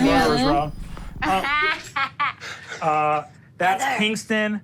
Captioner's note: Sofia laughs